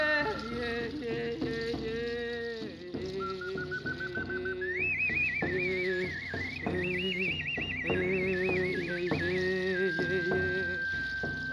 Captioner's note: bird-like whistle